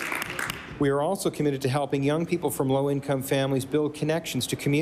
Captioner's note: applause